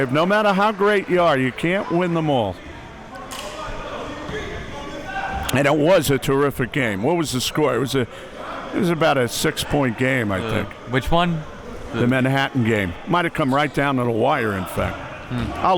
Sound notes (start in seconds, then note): 3.7 audience chattering and yelling